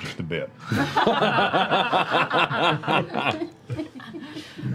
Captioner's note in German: Lachen